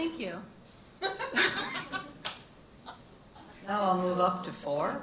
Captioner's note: laughter